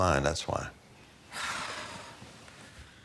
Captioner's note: scoffs